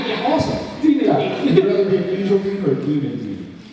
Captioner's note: laughs